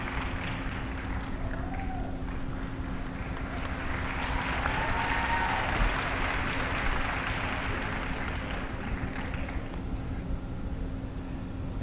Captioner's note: applause